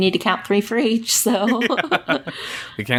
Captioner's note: laughs